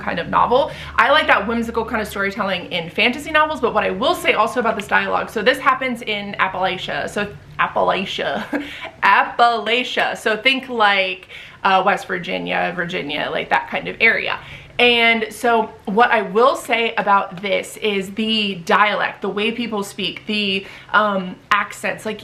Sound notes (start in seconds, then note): 7.3 super country accent